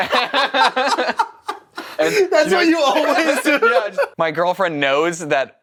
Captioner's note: laughter